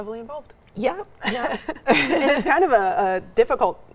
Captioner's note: laughs